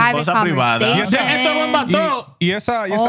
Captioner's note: speaking In Foreign Language